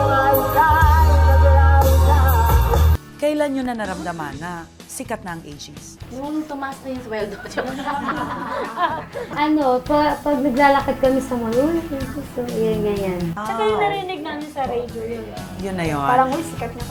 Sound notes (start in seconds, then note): 7.2 laughs